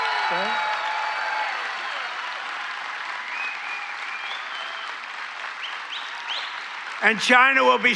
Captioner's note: cheering